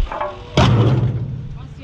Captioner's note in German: kraaach